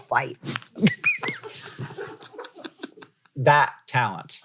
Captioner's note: laughing